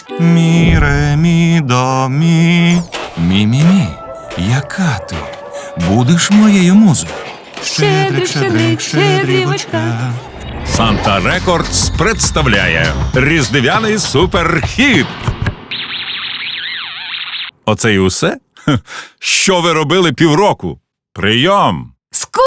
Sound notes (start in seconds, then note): 13.9 speaking pathetically